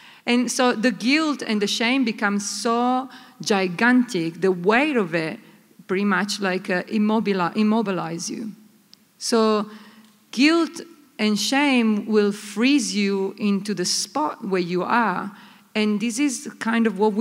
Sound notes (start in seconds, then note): none